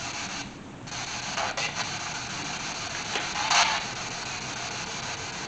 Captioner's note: radio "only if...i can"